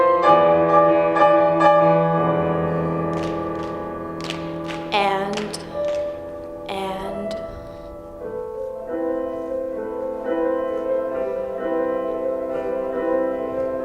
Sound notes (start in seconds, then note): 2.9 rhythmic clapping; 10.6 serene piano music